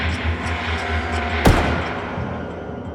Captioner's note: shot firing; tense music